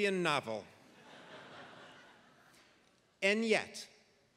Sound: laugh

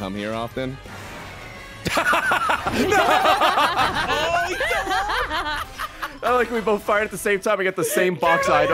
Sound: laughs

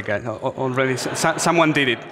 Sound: audience laughs

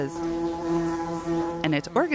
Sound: bees buzzing

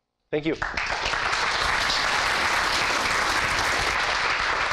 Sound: applause

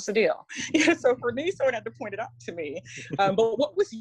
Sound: laughs

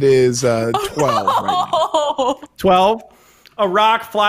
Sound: laughing

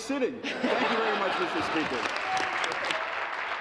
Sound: laughter

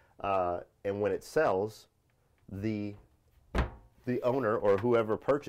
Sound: door shuts

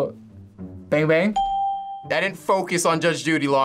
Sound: bell rings

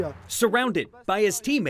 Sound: sounds of football practice

